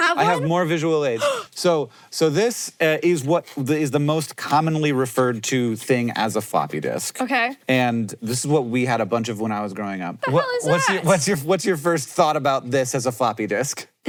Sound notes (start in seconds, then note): 1.1 Maya gasps